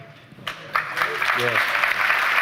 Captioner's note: applause